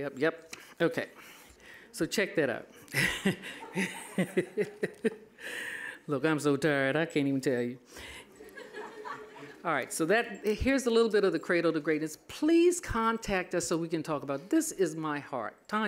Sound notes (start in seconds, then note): 2.8 laughing; 8.0 all laughing